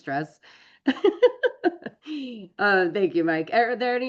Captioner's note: laughs